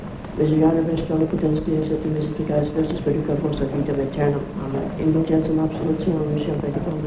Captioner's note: chaplain speaking in a foreign language